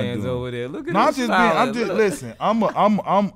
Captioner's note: laughs